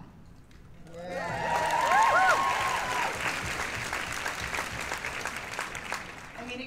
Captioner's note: cheers and applause